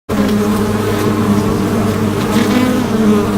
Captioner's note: bees buzzing